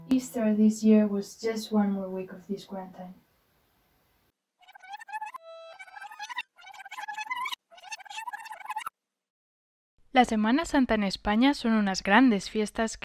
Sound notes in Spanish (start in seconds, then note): 4.6 Sonido de rebobinar